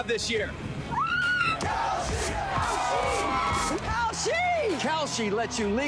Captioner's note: screams; chanting